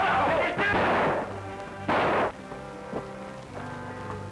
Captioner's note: gunshots